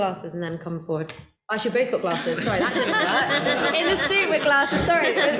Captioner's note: panel laughter